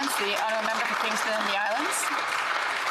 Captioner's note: applause